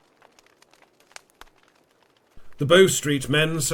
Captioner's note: fire crackles